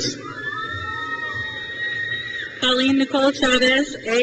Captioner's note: crowd cheers